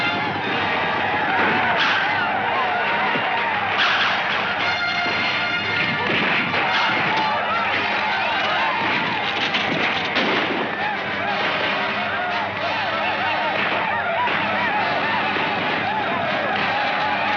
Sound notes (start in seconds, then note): 1.1 gunshot firing; 5.7 gunshots firing